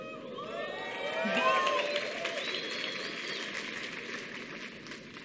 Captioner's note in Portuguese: Aplausos